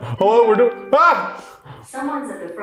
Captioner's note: laughing